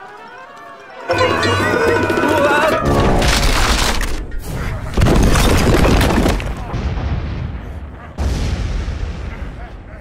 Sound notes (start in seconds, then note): 0.0 screams; 3.2 wall cracks; 4.9 wall breaks; 8.1 volcanos erupt